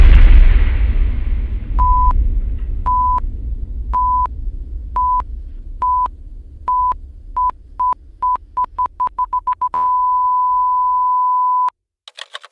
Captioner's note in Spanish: Pitidos de un paro cardíaco